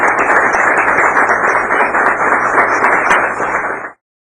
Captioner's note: applause